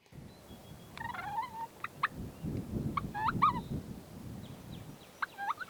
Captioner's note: turkeys clucking and purring